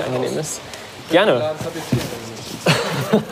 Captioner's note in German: Gespräch, Lachen